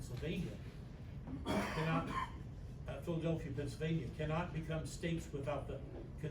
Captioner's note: stammers